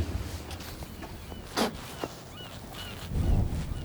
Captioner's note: spits; sea gulls squawking